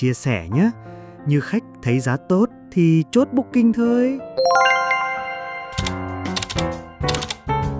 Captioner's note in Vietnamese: chuông